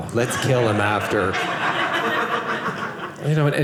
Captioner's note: audience laughing